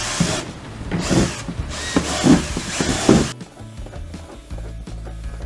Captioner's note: drill starting and stopping